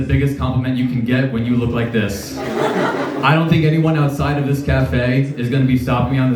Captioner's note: laughs